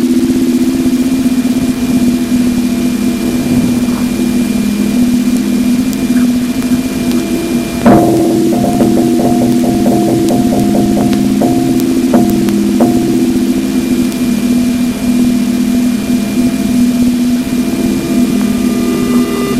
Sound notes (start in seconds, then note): 7.9 LECP rapid stepping